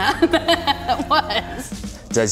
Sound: laughter

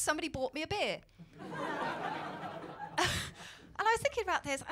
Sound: laughter

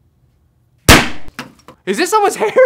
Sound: confetti popper pops

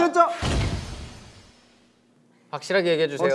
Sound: studio becomes silent

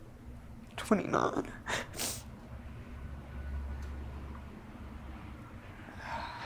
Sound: sniffling

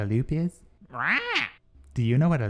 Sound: squawks

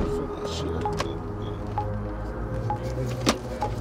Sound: mutters

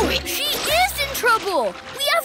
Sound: oinking

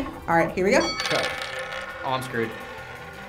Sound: bell dings; coins clinking

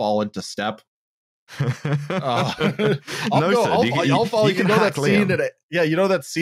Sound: laughs

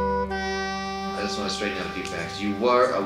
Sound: voiceover

